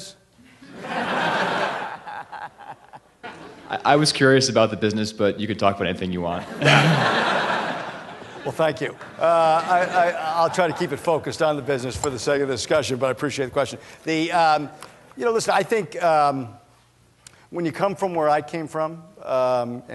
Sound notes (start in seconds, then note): 0.5 laughter; 6.4 laughter